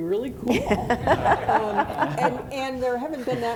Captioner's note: audience laughing